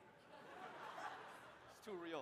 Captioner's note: laughs; audience laughs